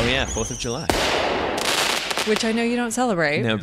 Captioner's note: fireworks sounds